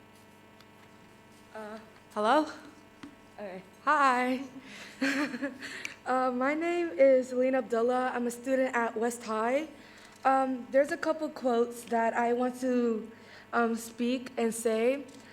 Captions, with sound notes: - Hello? Hi. (giggles) My name is Lynne Abdullah, I'm a student at West High. There's a couple of quotes that I want to speak and say.